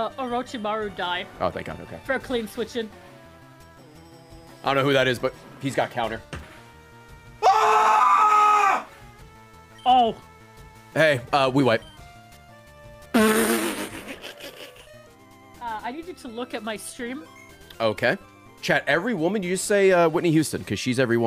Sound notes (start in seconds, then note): 7.4 screams; 13.4 laughs